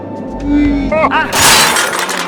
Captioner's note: crash